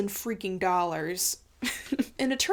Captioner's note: chuckling